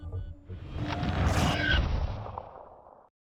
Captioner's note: ship crash